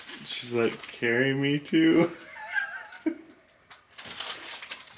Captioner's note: laughs